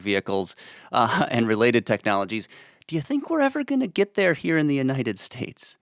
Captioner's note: chuckles